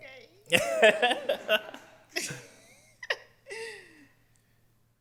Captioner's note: laughs